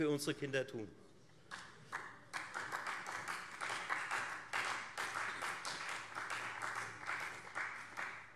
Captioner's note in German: Beifall Freie Demokraten